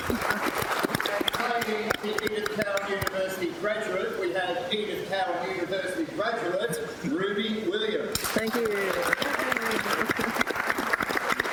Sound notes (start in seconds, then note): 8.2 more applause